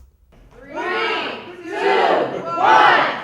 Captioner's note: crowd